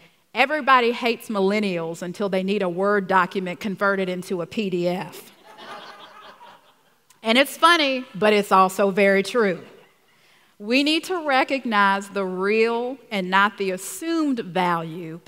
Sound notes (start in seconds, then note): 5.4 laughs